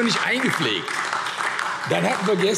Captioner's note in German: Beifall : Hört, hört!